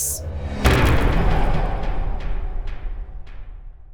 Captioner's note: impact